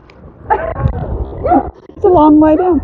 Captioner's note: laughing